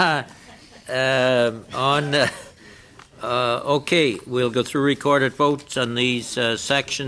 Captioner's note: some Laughter